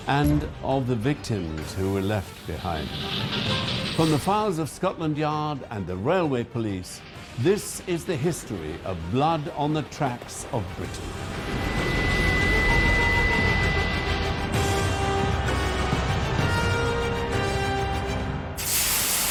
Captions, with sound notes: and of the victims, who were left behind. From the files of Scotland Yard and the Railway Police, this is the history of blood on the tracks of Britain. (train rumbling) (dramatic orchestral music)